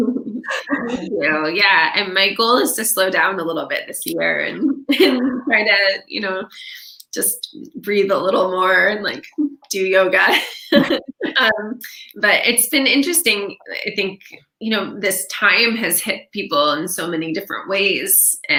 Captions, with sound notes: - Yeah, and my goal is to slow down a little bit this year and just breathe a little more and like, do yoga. (laughing) But it's been interesting, I think, this time has hit people in so many different ways.